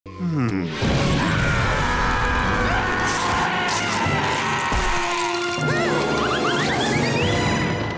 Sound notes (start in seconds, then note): 0.9 screaming